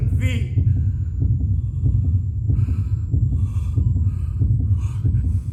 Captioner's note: a heart beats. hospital equipment beeps